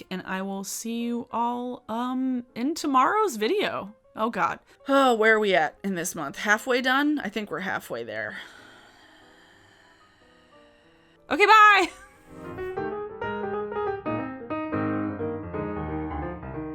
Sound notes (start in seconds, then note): 8.3 sighs; 13.6 jazz piano music